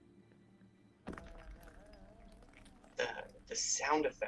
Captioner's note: rocks rolling